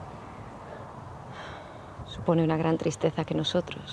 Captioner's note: sighs